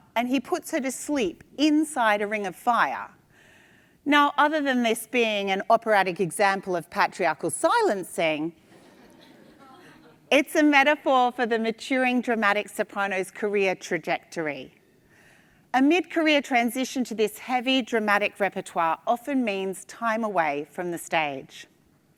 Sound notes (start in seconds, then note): 8.7 attendees laugh